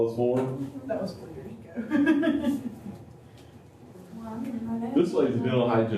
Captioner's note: laughter